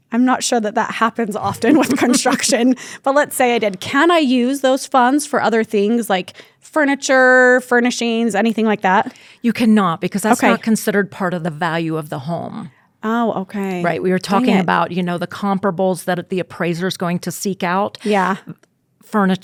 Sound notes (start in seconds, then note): 1.4 chuckles